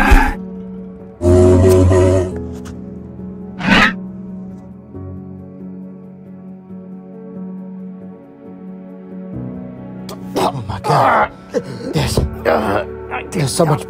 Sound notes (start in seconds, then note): 11.3 Mason gasping for air